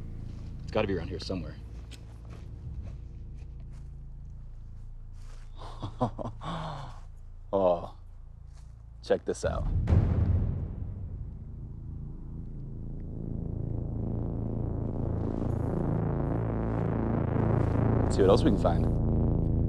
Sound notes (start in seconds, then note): 5.5 laughs incredulously; 9.6 percussive sting